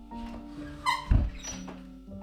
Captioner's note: squeaky hinge